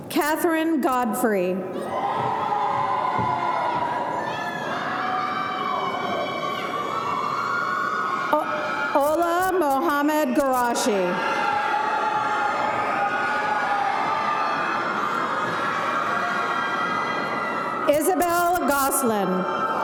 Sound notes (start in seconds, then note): 1.8 audience cheering